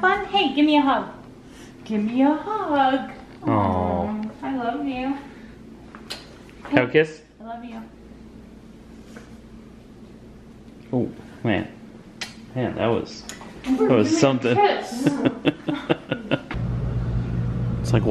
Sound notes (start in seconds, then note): 6.0 kisses; 14.9 laughs